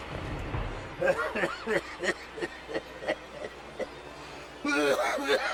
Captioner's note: dramatic music; Pappy laughs and coughs